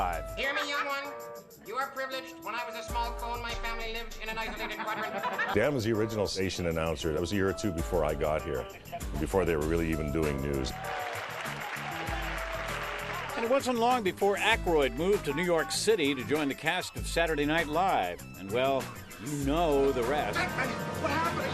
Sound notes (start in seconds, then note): 10.7 applause